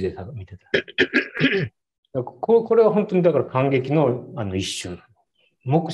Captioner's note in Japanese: 咳払い